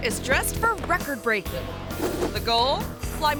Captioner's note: assistant faintly speaks